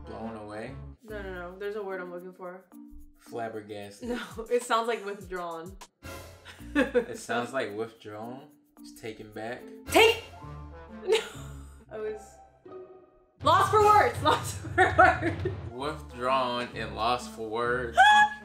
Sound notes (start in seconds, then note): 6.7 laughing; 11.4 laughs; 15.4 laughing